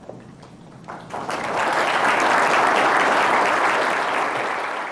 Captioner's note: applause